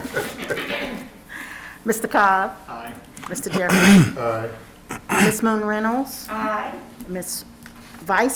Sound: laughter

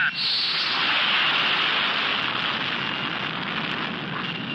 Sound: whooshing

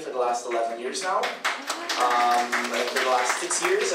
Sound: audience applauds

